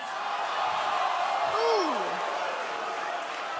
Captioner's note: cheers and boos